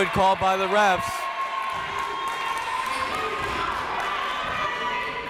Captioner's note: crowd cheers